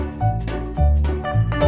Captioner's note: plas